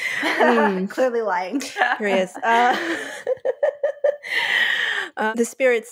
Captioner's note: laughs; laughter